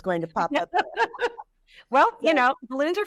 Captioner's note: laughing